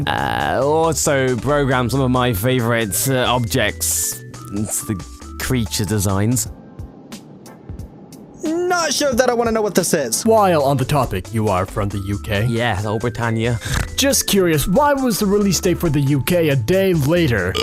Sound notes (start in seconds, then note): 13.6 snort